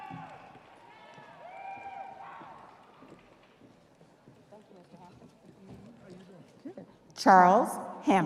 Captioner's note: audience cheering